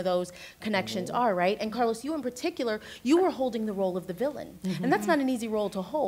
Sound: others agreeing

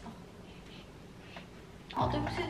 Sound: sniff

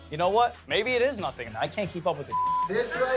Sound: beep

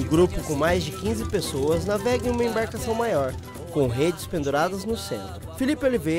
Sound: boat engine

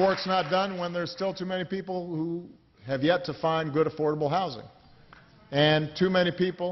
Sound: applause

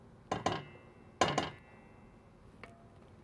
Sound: utensil tapping

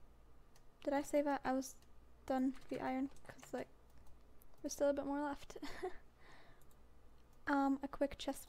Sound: chuckle

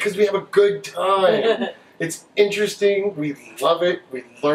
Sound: laughs

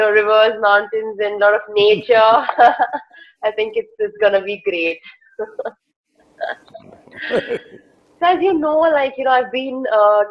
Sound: both laugh

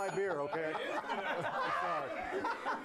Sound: laughter

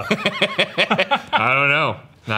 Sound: both laugh

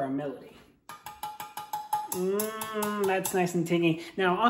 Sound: chopstick tapping

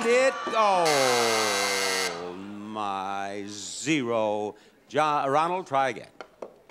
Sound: sound effect buzzes

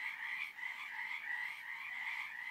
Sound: animals screams

